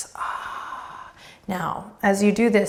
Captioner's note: breathing deeply